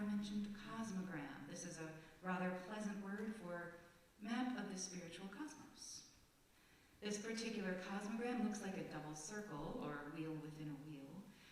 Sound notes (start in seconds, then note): none